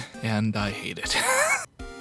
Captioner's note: wheeze